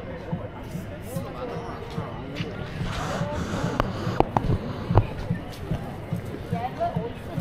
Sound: people chattering

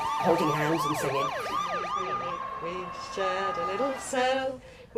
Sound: loud police car siren noises

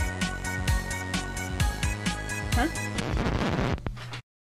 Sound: record scratches

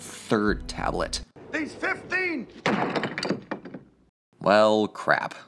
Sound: tablet crashes

